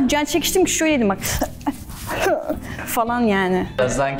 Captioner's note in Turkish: Gülüşmeler